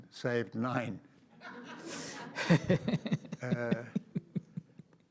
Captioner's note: audience laughs